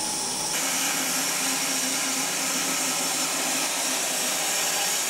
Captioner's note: saw whirring